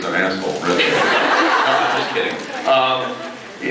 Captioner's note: laughs